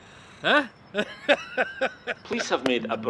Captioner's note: laughing